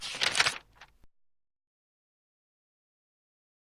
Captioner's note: shuffling